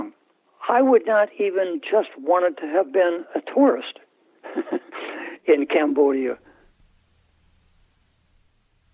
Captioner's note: laughter